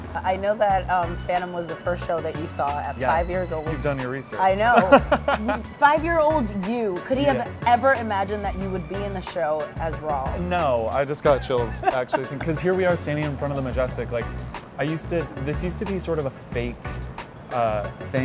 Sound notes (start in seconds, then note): 4.6 laughs; 11.3 laughs